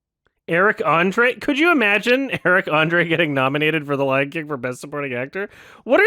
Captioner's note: laughs mid-sentence